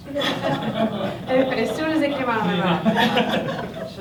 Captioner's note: laughter